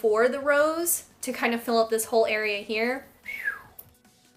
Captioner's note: whistles